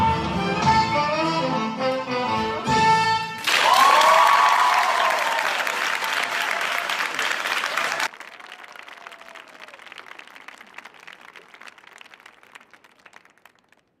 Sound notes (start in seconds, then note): 3.4 audience applauding; 3.4 audience cheering